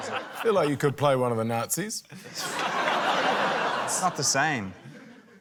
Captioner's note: laughter